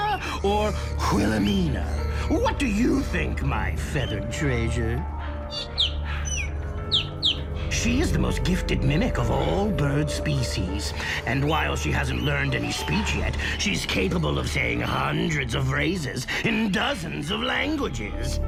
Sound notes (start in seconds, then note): 4.9 bird chirping